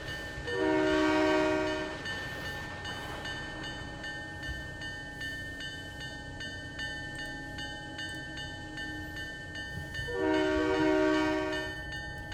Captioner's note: train whistle